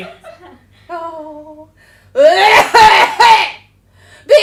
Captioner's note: coughs